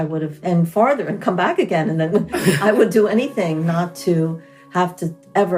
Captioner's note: both laugh